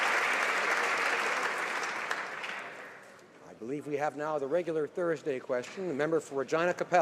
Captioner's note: applause